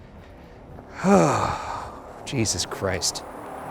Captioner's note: ominous music; sighs